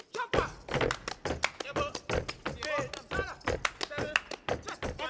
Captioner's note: speaking language other than English